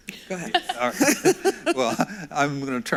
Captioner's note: laughs